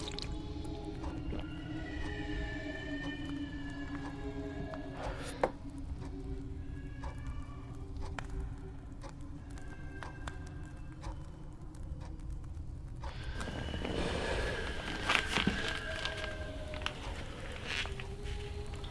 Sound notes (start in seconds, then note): 3.0 haunting children moans continue; 7.5 eerie breeze; 11.6 clock ticking